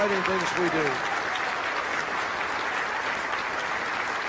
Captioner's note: crowd applauding